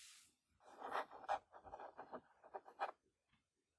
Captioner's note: scratching sounds